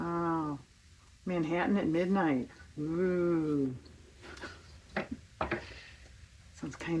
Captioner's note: laughs